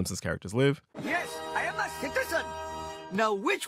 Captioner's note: soundbite of tv show, "the simpsons"